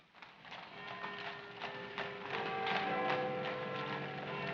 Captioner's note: clock chiming